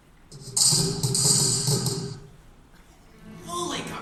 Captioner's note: explosions popping